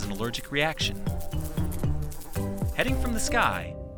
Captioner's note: light music; bee buzzing